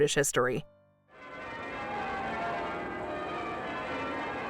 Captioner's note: bells ringing